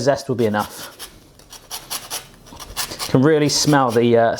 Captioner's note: grates